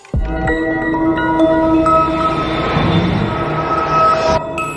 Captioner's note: electronic chiming